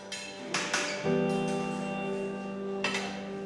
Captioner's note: cutlery clatters